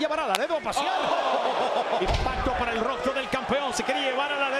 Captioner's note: laugh